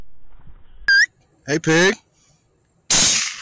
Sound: whistle

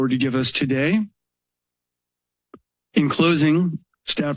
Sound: pause

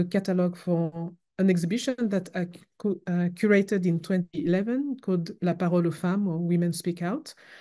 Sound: french

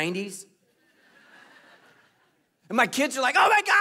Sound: congregation laughing

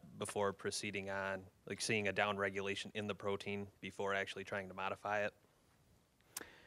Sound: none

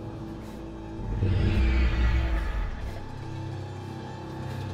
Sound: The Corvidae growls

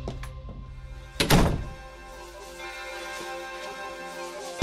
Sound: door slams

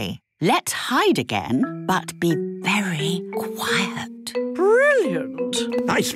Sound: whispering

